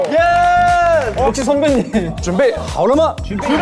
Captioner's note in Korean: 박수